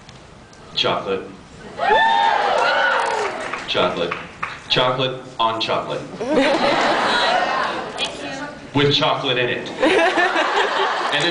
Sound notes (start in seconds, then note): 1.8 cheers; 6.1 laughs; 9.8 laughs